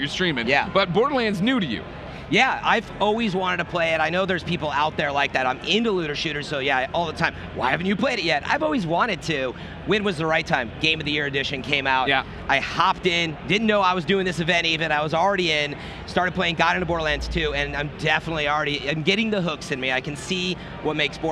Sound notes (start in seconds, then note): none